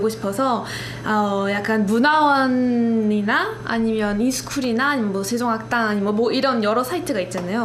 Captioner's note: Korean